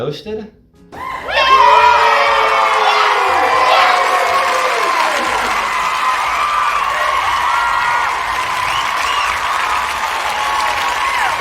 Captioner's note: cheering